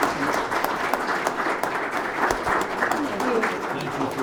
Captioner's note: audience applauds